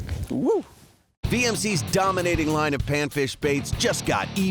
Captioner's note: voiceover